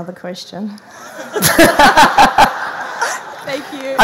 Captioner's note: laughing